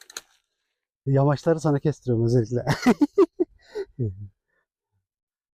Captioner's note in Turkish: kahkaha